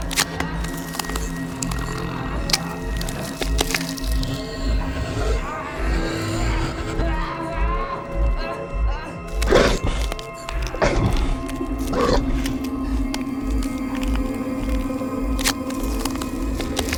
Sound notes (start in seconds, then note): 5.3 vampire laughs; 7.5 Adam groans; 8.9 vampire growls